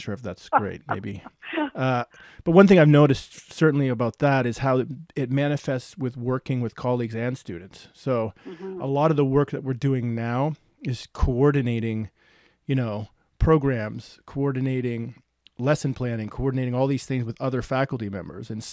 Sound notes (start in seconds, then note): 0.5 laughing